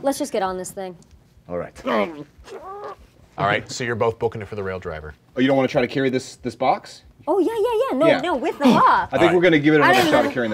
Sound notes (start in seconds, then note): 1.8 grunting